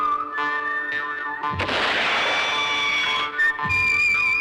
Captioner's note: gunshot